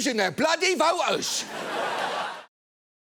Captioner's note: studio audience laughing